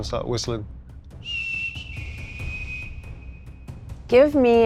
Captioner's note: whistling